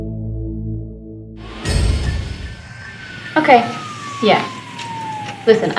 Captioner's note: sirens whirring